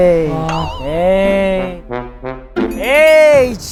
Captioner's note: whining upon arrival